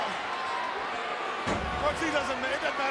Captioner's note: crowd clamors